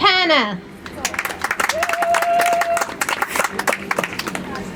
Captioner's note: audience applauds